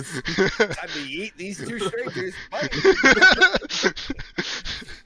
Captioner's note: laughter; laughter